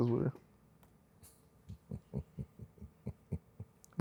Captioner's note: chuckles